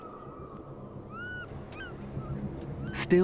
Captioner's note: birds squawking